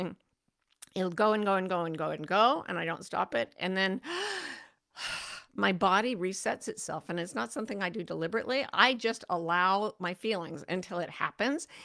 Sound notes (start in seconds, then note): 4.0 inhales and exhales deeply